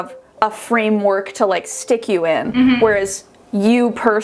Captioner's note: humming affirmatively